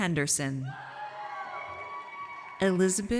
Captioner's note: audience cheers